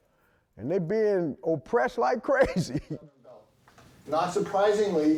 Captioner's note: laughs